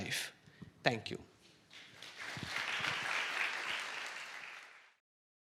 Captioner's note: applause